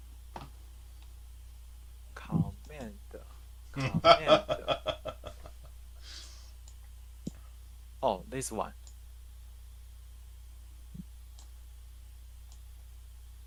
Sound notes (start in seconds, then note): 3.8 laughing